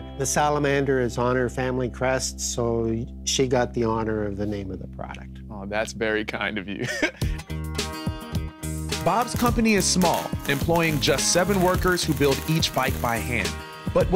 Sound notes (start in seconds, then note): 6.8 laughs; 7.7 gentle music